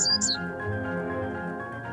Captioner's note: loud bird chirping